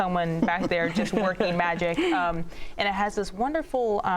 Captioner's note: chuckles